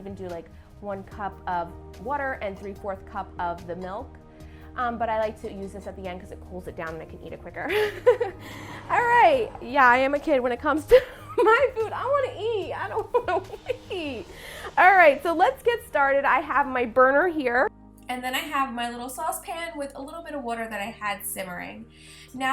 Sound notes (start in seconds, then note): 8.0 laughs; 12.9 laughing while talking